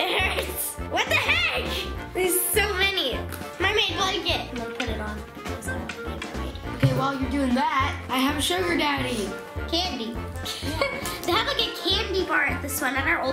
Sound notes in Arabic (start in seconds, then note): 10.4 يضحك